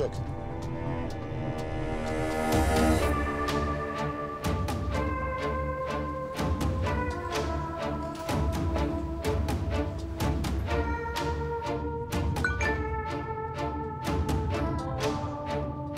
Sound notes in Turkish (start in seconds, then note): 12.4 Mesaj sesi